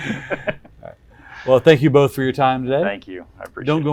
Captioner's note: chuckling